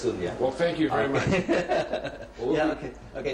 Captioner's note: laughs